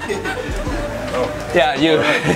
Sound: laughing

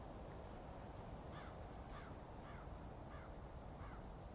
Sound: crows squawking in distance

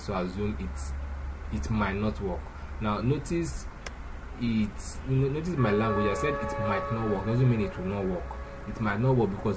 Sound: car Horn

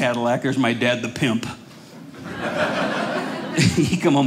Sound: audience laughing

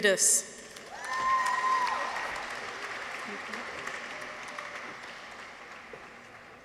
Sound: audience applauds; people cheer

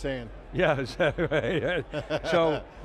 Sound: laughs

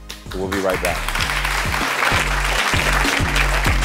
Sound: audience clapping; upbeat music

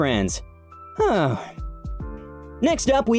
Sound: sigh

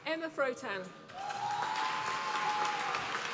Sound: applause

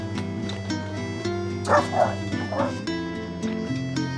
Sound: dogs barking

